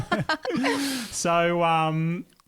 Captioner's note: laughing together